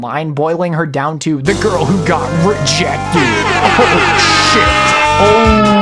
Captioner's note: cacophony of obnoxious sound effects